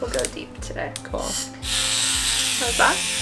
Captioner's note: tool buzzing